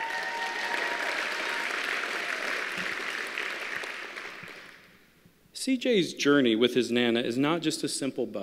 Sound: applause

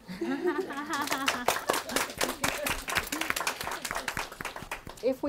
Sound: applause

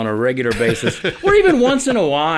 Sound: laughing

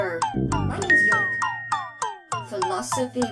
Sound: bright ding

